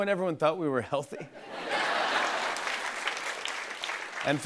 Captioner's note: laughter and applause